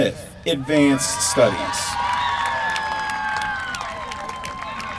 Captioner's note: applause